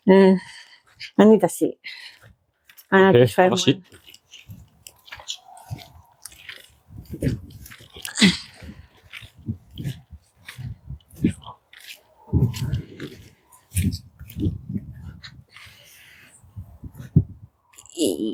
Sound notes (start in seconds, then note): 3.8 footsteps